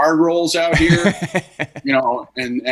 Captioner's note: laughing